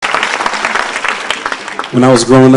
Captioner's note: applause